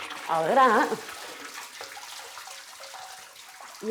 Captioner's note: liquid splashing